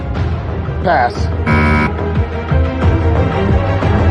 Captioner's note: buzzer sounds